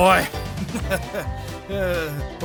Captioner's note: laughs